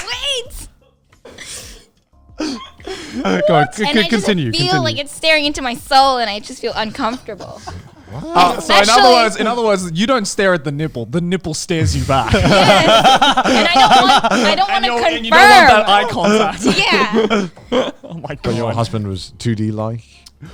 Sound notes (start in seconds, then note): 2.4 all laughing; 11.8 all laughing